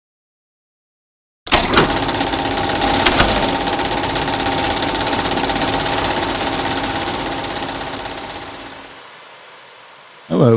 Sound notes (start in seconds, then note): 1.4 projector noise; 6.0 static